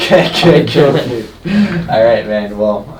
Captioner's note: laughing